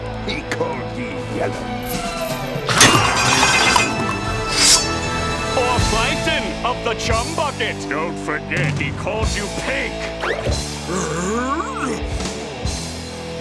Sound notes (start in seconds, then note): 0.3 metallic clanking; 8.7 Patrick grunting